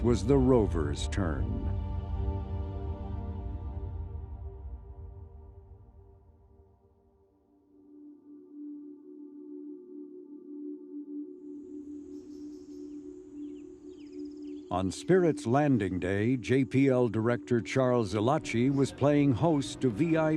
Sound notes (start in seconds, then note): 9.2 soft music; 14.2 birds chirping